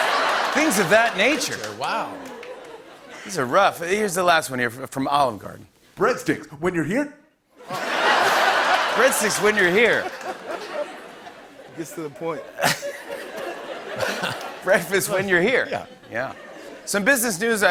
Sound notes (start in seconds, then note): 6.9 laughter